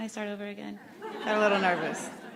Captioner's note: laughs